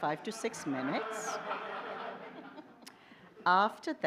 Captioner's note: laughter